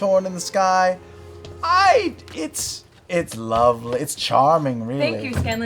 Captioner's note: none